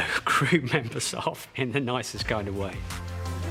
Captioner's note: laughs